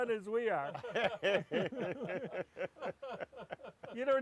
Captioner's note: all laughs